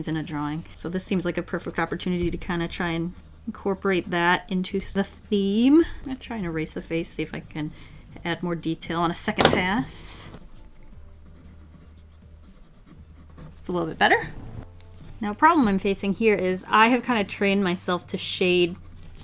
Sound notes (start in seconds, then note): none